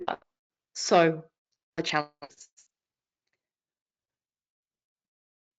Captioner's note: audio cuts out